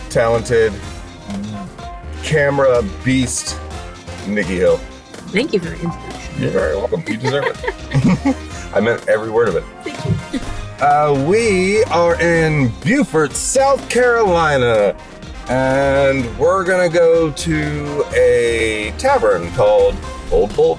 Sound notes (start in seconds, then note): 6.2 laughs; 6.2 chuckles